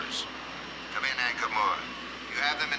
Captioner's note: Ankar Moor Over Radio; Lord Zirpola Over Radio